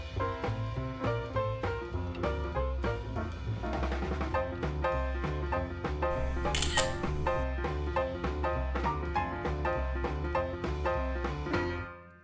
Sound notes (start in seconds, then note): 6.1 camera clicks